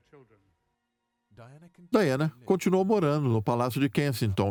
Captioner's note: voiceover